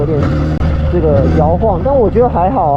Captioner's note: vibration